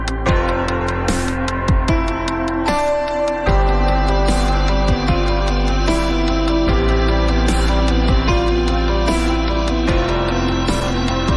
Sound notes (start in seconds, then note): 4.8 rumbling